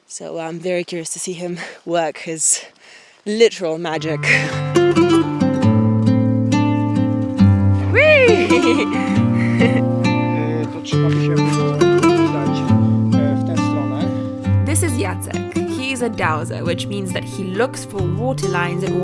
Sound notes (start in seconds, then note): 4.9 somber music; 11.0 speaks a foreign language